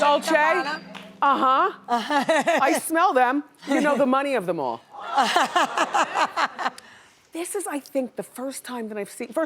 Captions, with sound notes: Dolce aha. (laughs) I smell them, you know the money of them all. (laughs) This is I think the first time that I've seen